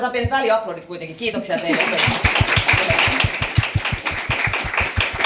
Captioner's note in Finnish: aplodeja